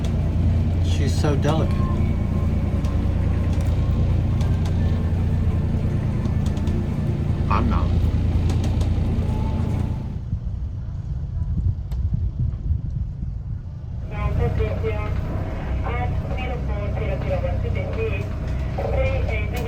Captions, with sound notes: She's so delicate. I'm not. (VHF Radio saying something)